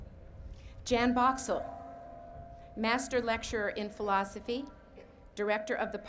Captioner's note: none